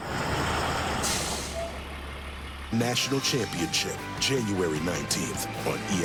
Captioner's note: school bus stops